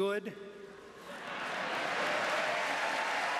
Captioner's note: applause